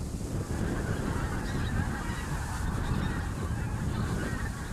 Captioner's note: geese honk in the background